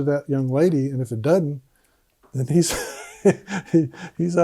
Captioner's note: laughs